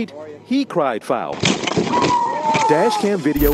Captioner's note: teenagers cheering